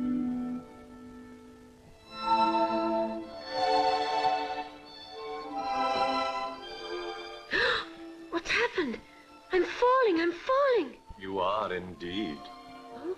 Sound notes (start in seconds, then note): 7.5 gasps